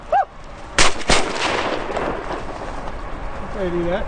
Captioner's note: gun fires